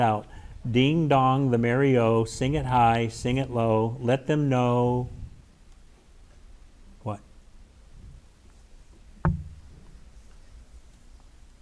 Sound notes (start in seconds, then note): none